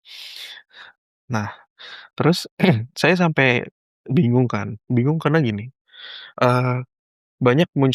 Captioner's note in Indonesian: berdehem